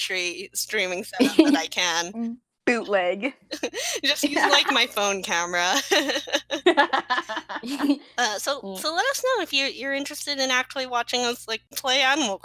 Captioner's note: laughing